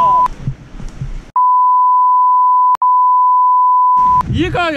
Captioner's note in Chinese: 哔哔哔